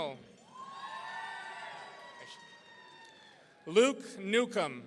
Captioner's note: audience cheering